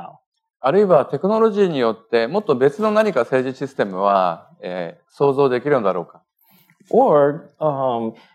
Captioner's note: speaking japanese